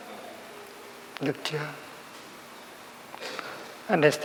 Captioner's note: Vietnamese